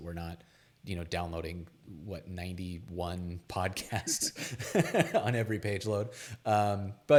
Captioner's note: laughs